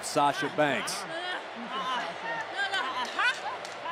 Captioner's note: Sasha cries